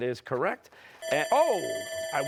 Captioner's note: bell ringing